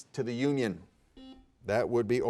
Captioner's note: buzzer beeping